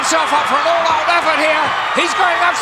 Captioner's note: audience cheering